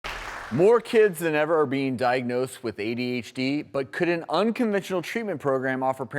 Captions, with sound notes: (Audience clapping) - More kids than ever are being diagnosed with ADHD, but could an unconventional treatment program offer